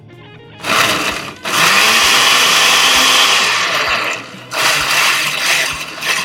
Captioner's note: blender pulsing